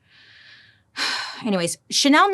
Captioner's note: sighs heavily